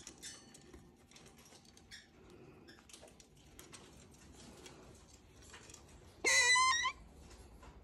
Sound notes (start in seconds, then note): 6.2 bird squawking